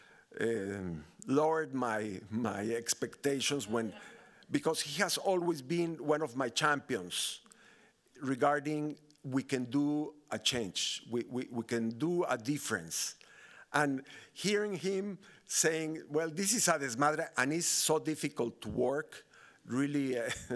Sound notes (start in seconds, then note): 16.6 speaking Spanish